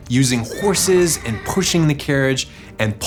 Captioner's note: horse neighing